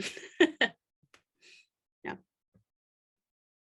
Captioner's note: laughing